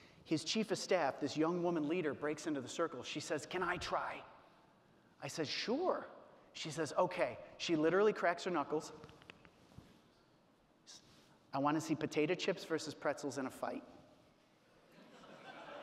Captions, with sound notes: his chief of staff, this young woman leader, breaks into the circle. She says, "Can I try?" I said, "Sure." She says, okay. She literally cracks her knuckles. (cracks knuckles) "I wanna see potato chips versus pretzels in a fight."